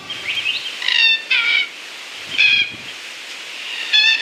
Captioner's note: bird calls